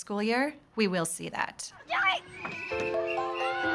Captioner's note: children shouting, whistle blowing